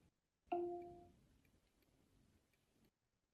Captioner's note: device chimes